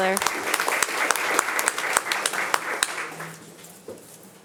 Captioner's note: audience applauding